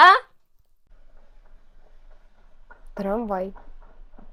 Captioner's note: tram sounds